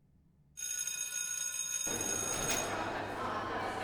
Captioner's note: bell rings; students talking and walking to classes